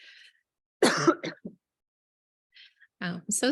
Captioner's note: coughs